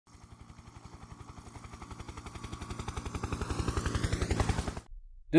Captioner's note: helicopter in flight